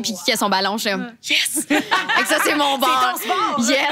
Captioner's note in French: rires